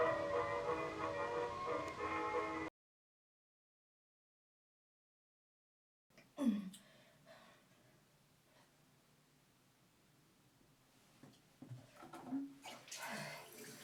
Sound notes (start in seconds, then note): 6.7 grunting